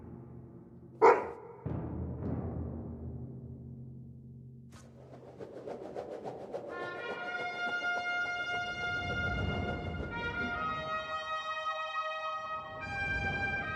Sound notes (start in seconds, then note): 1.0 barking; 2.9 drumming